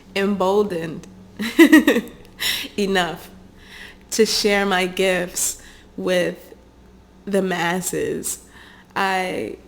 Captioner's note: chuckles